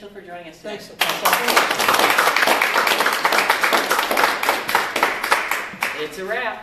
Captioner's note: applause